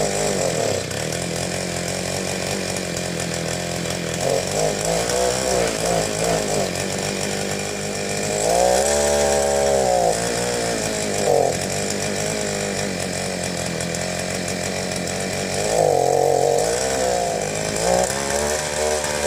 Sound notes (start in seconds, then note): 2.2 engine running poorly